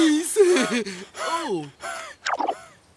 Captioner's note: panting